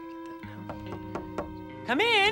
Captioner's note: knock knock